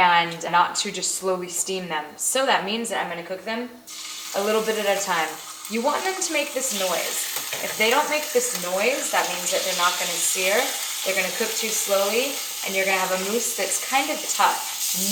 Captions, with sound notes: and not to just slowly steam them. So, that means that I'm gonna cook them a little bit at a time. You want them to make this noise. [sizzling] If they don't make this noise it means that they're not gonna sear, they're gonna cook too slowly, and you're gonna have a mousse that's kind of tough.